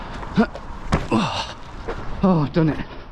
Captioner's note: grunts